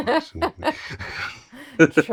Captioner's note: laughing